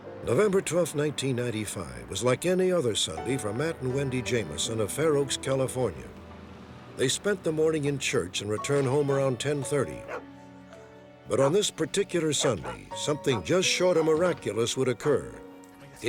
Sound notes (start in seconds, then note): 11.4 dog barking